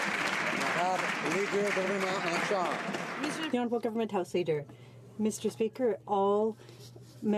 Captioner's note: some Applause